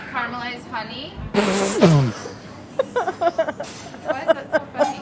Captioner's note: group laughing